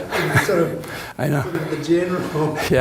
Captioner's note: laughs